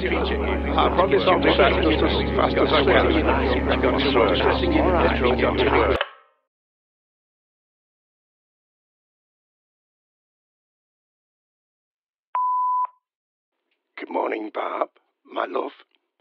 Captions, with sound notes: (phone clicks) (phone beeps) Good morning, Barb, my love.